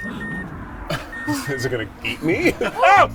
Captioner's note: car beeping